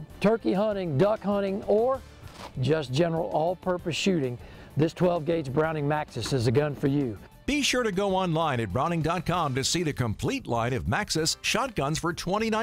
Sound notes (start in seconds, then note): 7.1 voiceover